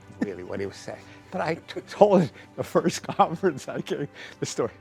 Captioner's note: laughs